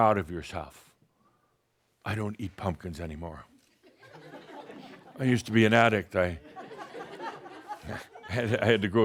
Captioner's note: a few chuckles